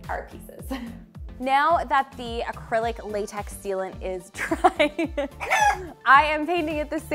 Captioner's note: laughing